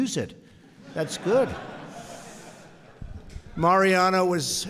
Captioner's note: laughter